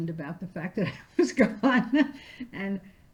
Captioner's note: laughing